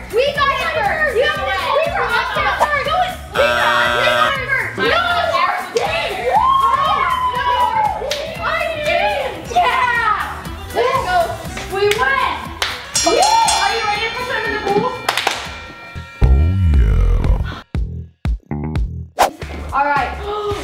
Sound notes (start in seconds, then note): 3.2 buzzer buzzes; 5.8 cheering; 12.9 boxing bell chimes; 15.0 claps